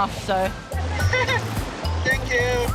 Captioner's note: laughing